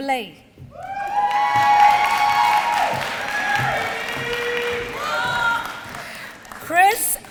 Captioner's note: applause